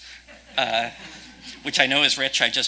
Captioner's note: audience laughing